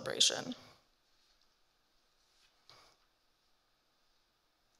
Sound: paper rustling

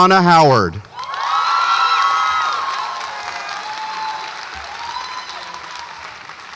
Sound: audience applauds and cheers

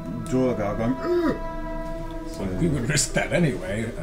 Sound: groans

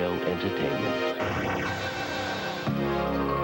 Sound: loud booming noise

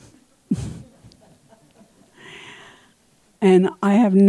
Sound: audience laughing

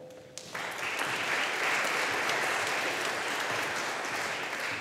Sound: audience applauding

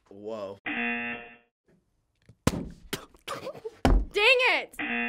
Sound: buzzer; spluttering; balloon popping; buzzer

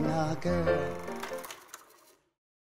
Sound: film reel stops

